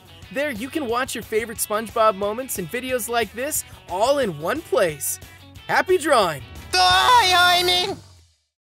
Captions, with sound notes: There you can watch your favorite SpongeBob moments in videos like this all in one place. Happy drawing. [talking gibberish]